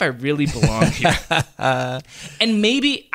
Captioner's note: laughing